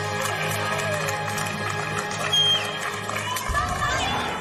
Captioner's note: cheering and applauding; someone in Spanish